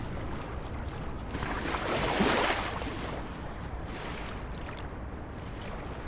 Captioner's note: waves splashing ashore